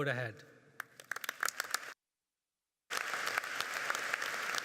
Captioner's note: audience clapping